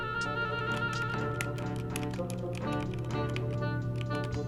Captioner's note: keys clacking